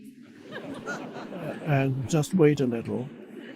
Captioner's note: audience laughing